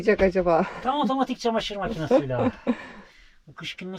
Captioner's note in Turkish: kahkaha